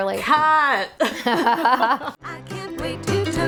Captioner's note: laughing